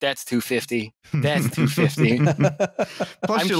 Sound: laughter

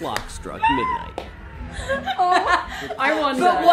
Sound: all laughing

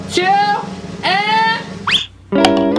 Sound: whistles; lively music

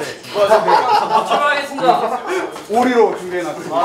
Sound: laughing

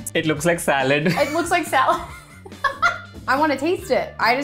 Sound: laughing

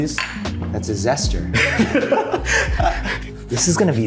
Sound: both laughing

